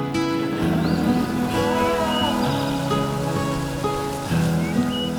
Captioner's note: birds chirping; gentle music